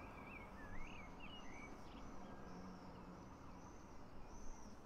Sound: birds chirping

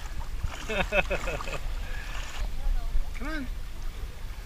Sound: chuckles

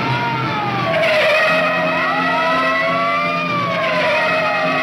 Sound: tires squealing

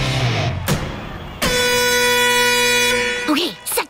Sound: horn blowing

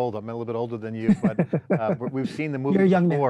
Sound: laughs

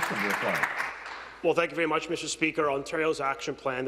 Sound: some Applause

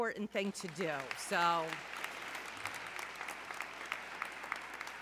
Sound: audience clapping

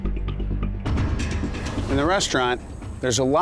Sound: dramatic music; whooshing

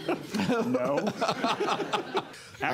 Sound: laughter

